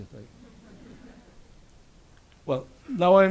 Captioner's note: audience laughs